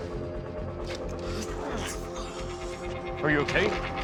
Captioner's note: Charlie groaning